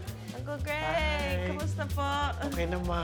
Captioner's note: Speaks Tagalog